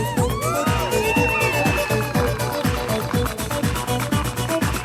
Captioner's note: audience cheering; upbeat music continues